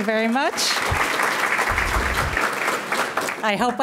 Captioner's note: audience clapping